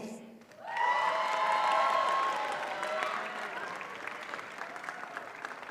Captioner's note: audience cheers and applauds